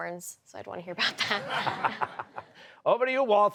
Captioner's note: laughter